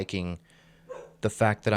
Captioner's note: Cream barks